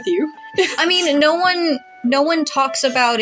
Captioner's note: laugh